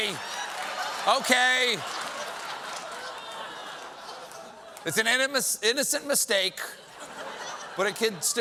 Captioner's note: laughter